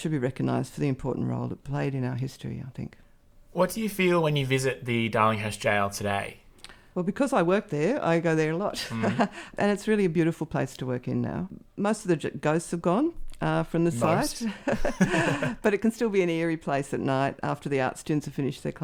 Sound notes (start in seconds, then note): 8.7 laughs